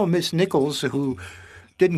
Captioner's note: speaking French